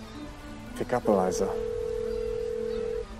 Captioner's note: phone dailing